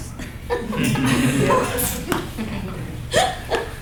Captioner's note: laughter